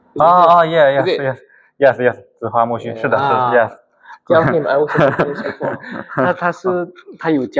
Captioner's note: laughs